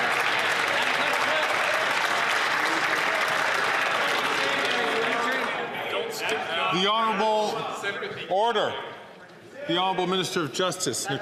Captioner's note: some Applause